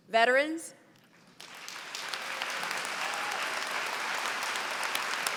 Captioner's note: applause